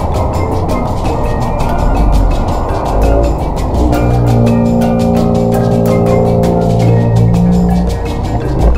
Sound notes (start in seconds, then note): 3.2 slow motion voice